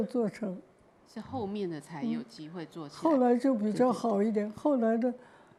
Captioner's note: Mandarin